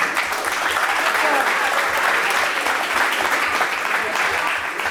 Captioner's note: audience applauds